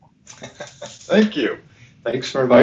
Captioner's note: laughs